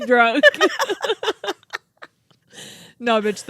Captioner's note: laugh